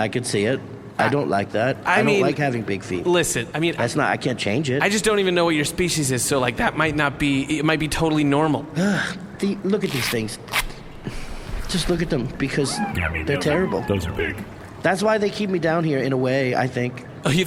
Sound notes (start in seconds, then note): 8.8 sighs; 10.4 sounds of velcro pulling apart